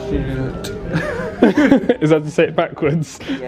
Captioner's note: speaking gibberish; both laughing